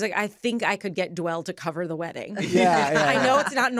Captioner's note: laughter